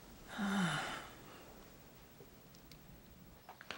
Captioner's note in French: Soupir